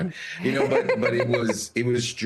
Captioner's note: laugh